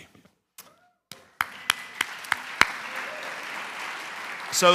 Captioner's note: applause